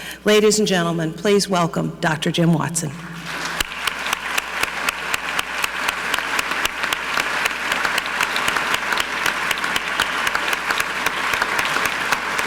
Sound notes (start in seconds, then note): 3.1 audience clapping; 3.2 clapping